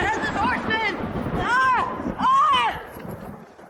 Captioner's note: thunder cracks